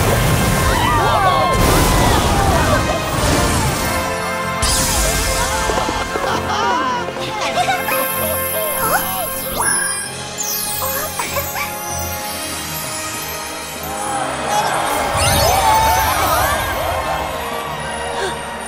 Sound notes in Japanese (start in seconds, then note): 13.8 観客たちの歓声